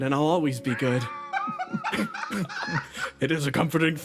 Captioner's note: laughs